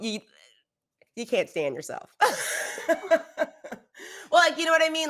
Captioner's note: laughs